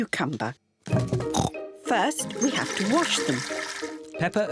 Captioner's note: oinks